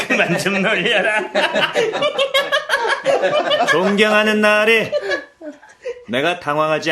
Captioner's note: laughs